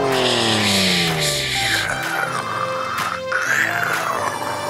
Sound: hisses and snarls

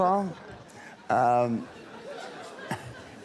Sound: laughter

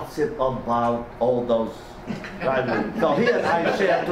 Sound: faintly speaking

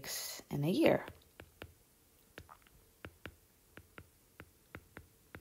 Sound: digital pen tapping noise

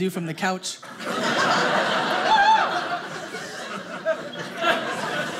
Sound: audience laughing

